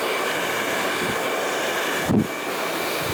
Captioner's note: hair dryer blowing